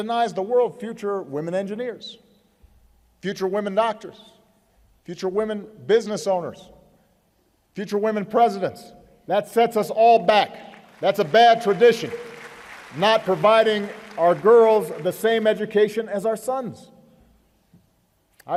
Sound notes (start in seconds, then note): 10.4 applause